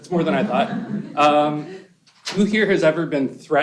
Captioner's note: laughter